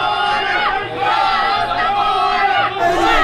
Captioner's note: protesters chanting